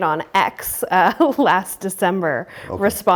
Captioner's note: laughs